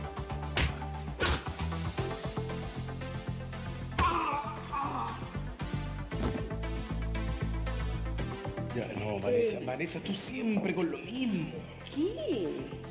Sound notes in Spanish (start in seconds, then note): 0.5 puñetazo; 3.9 puñetazos